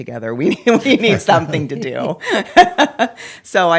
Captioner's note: laughs